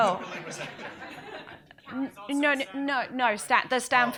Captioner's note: audience laughs